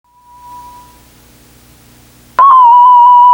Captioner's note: feedback